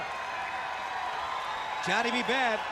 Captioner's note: crowd cheering